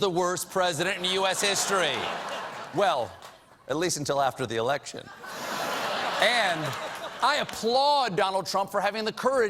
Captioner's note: laughter